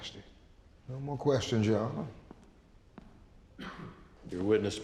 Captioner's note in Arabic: خطوات